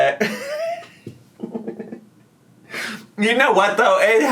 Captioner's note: laughs